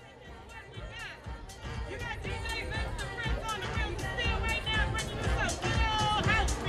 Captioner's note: shouting; upbeat jazz music